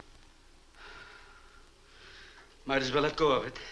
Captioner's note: Marlowe sighs